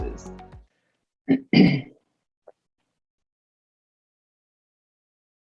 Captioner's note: clears throat